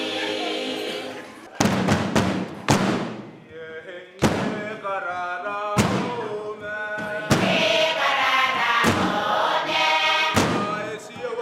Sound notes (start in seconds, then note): 1.6 table bangs; 3.9 people speak in foreign language